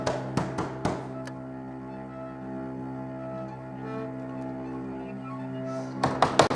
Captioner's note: light switch flicks off; banging